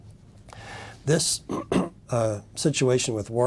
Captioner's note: cough